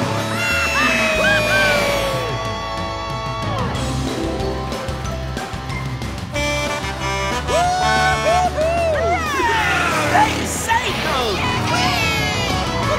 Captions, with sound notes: [cheering] [horn honking] - Woo-hoo-hoo! - Hooray! They saved 'em! [cheering]